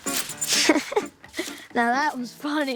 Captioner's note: Jack chuckles